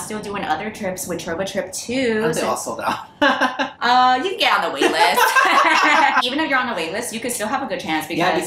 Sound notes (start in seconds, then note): 4.8 laughter